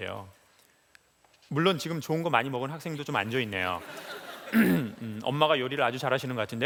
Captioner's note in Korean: 웃음